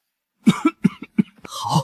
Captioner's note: cough cough cough